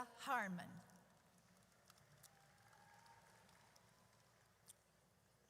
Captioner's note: audience cheers